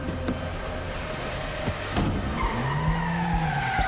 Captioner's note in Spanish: ruido agudo de neumáticos